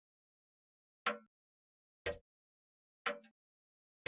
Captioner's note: clock ticking